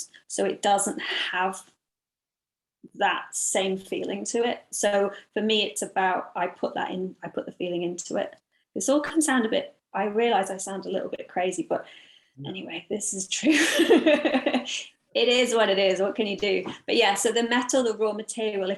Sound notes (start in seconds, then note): 13.8 laughs